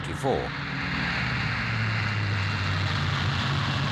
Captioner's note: plane roaring